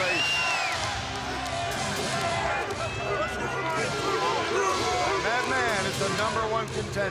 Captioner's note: crowd chatter